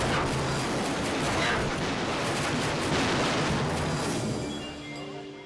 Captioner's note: helicopter crashing